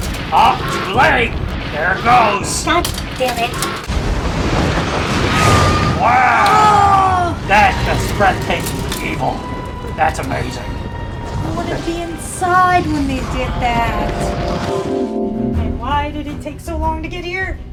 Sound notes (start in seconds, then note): 3.8 thunder and earthquakes